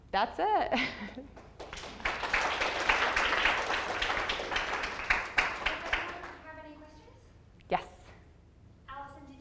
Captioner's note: audience applause